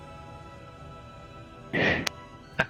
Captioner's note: Krel soft sob